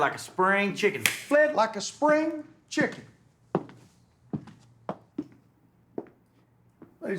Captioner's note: hands slapping